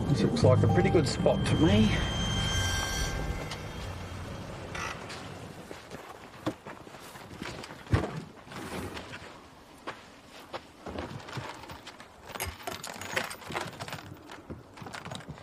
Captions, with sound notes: - This looks like a pretty good spot to me. (footsteps whispering) (plastic thumps) (metal clattering)